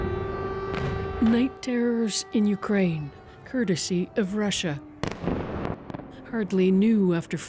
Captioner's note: sirens